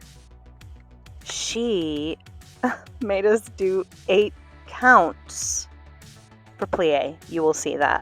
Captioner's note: giggle